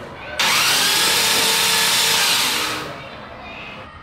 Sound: motor revving

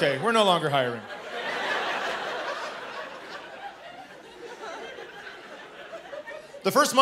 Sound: laughter

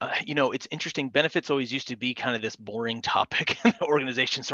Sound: laughs

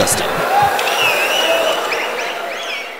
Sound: wild applause and cheering for 22 seconds

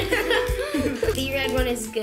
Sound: laughs

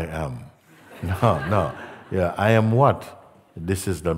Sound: laughter

